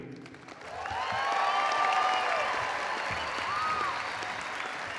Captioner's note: audience applauding